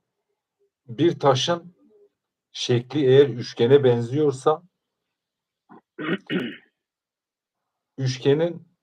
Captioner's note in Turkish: boğazını temizler